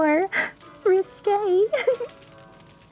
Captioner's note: giggle